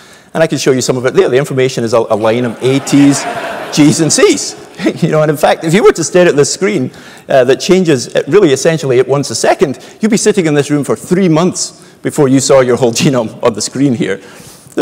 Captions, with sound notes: And I can show you some of it here. The information is a line of- >> [LAUGH] >> a's, t's, g's, and c's. [LAUGH] And in fact, if you were to stare at this screen, that changes really essentially once a second, you'd be be sitting in this room for three months before you saw your whole genome on the screen here.